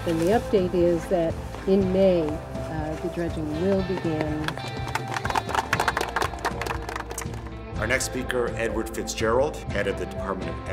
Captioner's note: applause